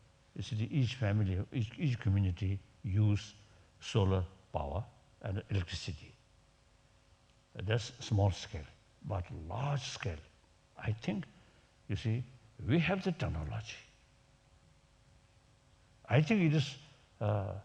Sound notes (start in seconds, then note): none